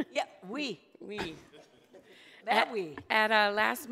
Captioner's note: laughs